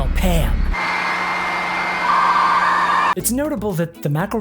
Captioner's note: dialup noises